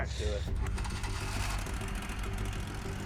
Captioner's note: motor running